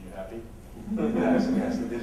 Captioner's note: laughter